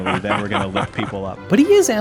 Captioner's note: laughs